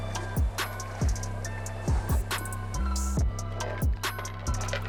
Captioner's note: water splashing; boat creaking